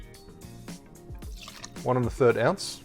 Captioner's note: whiskey glugs; whiskey pours